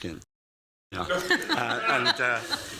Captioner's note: laughter